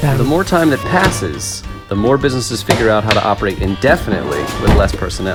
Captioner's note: podcast Voice